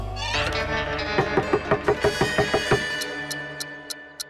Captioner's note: knocking; watch ticking